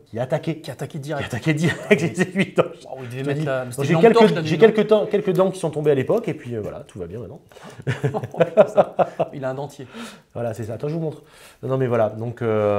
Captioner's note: laughs